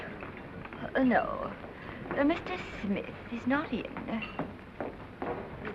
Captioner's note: bored tone; snobby accent